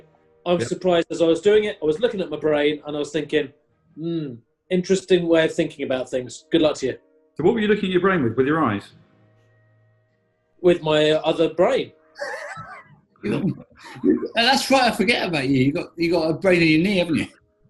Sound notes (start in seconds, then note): 13.2 sniggering